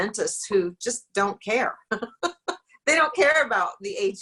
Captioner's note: laughs